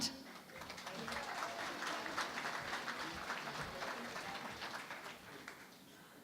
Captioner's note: applause